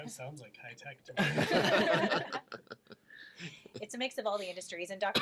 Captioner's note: all laugh